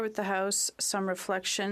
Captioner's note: speaking French